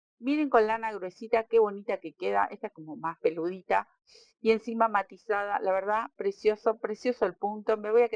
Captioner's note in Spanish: resoplido